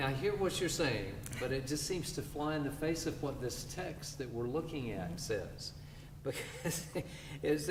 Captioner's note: laughter